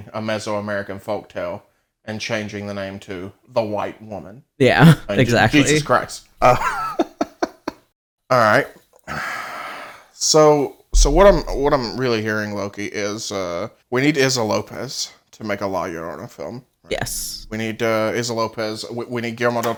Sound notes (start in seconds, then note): 6.4 laughs; 9.6 sighs